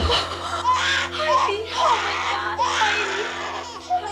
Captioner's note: baby crying